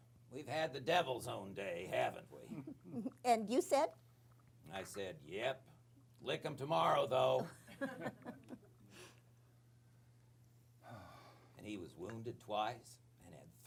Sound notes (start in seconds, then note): 7.4 laughter